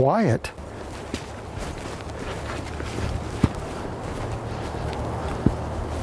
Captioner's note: shuffling footsteps